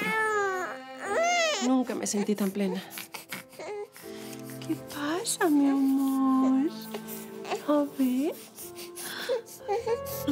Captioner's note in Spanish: Lloriqueos